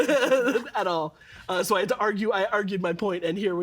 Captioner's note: laughing